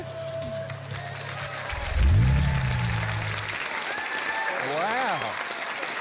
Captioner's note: cheering, applause